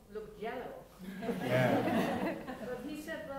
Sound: laughter

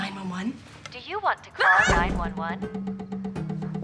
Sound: girls all scream

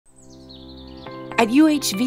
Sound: birds tweet

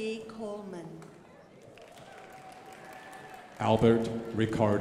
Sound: crowd applauding

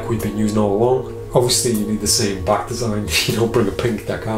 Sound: chuckling

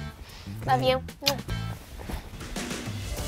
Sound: kisses; upbeat music

